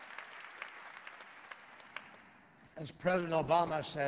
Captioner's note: applause